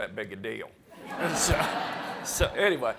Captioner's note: audience laughs